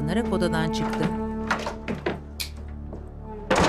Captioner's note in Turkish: Kapı açılma sesi; Kapı kapanma sesi